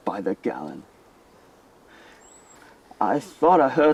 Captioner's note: birds chirping